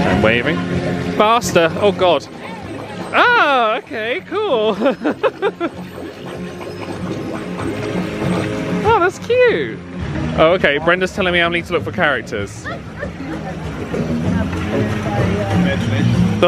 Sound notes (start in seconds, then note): 4.9 chuckles; 13.1 upbeat music continues